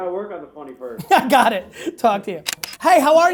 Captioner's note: laughing